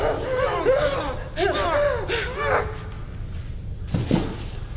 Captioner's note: Keith whimpering